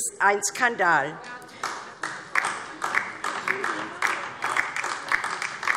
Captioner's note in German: Beifall DIE LINKE